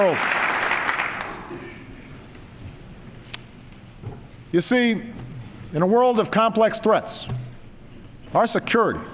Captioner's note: applause